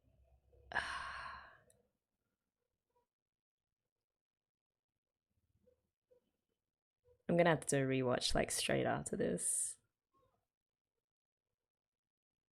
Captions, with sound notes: [sighs] I'm gonna have to re-watch straight after this.